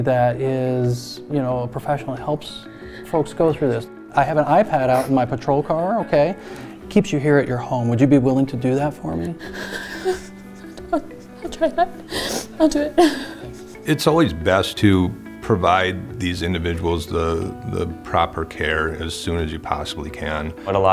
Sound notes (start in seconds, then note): 12.0 sniffles